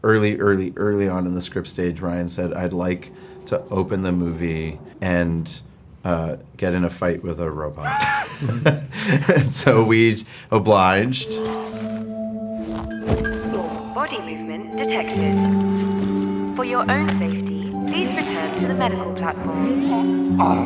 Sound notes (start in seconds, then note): 7.8 actor screams; 7.8 laughs; 12.9 Ryland thumps; 12.9 mystical electronic music